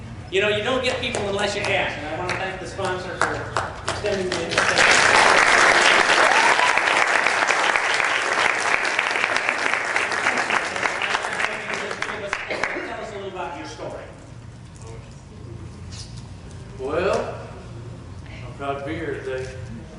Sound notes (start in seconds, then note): 6.3 applause